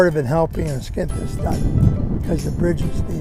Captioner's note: wind blowing on microphone